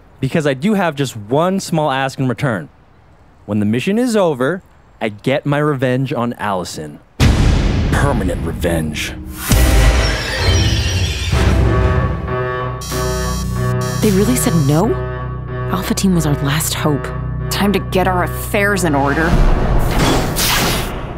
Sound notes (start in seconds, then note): 12.2 beeping